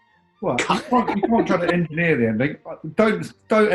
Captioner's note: giggling